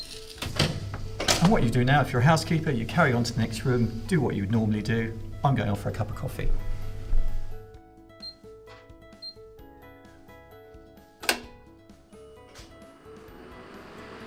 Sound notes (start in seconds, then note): 8.2 beeps count down; 11.2 Catalyst clicks